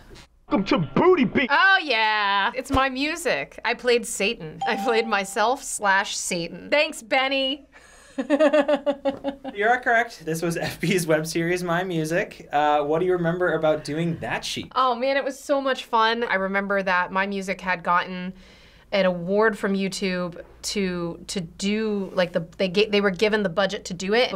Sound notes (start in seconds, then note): 4.6 ding; 8.2 laughs